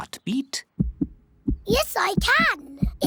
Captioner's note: heart thumps